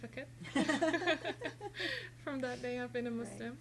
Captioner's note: laughing